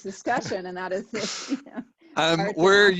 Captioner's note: laughs